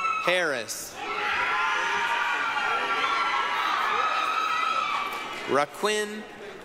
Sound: applause, cheering

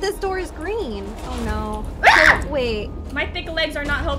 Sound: screams

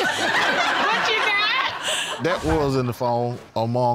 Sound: all laughing

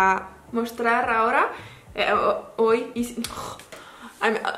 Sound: in french

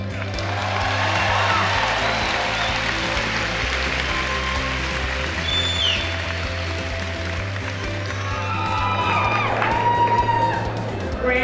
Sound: applause

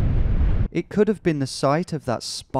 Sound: voiceover

